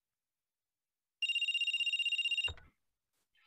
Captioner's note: phone Rings